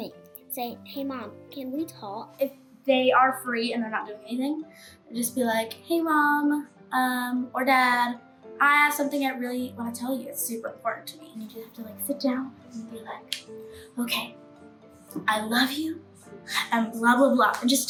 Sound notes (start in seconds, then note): none